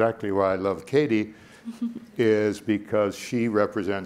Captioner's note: laughs